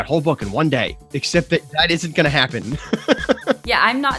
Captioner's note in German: lacht